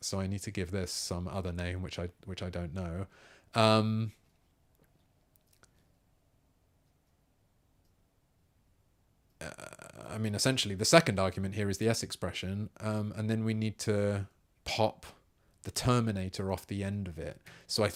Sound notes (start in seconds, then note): 3.5 silence